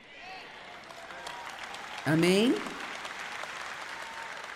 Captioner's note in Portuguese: audiência aplaude